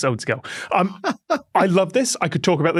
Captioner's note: giggles